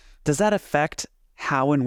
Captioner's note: none